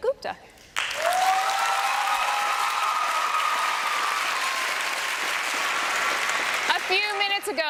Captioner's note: applause and cheering